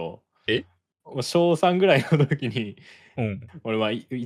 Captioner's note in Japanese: 笑い